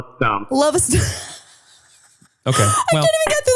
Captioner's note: laughing